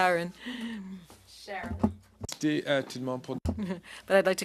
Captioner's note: laughter